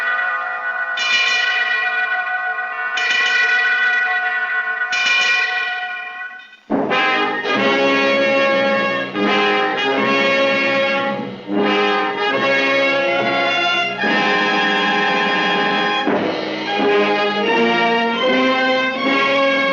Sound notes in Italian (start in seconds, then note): 2.6 rintocchi di campane; 7.6 musica in sottofondo; 18.8 musica in sottofondo